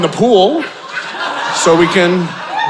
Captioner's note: audience laughing